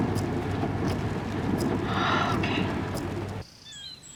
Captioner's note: sighs